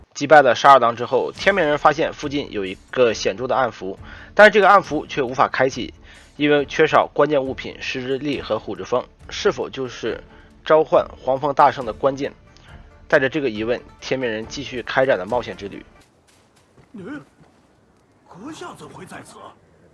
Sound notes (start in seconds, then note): 16.9 nonverbal grunt as interjection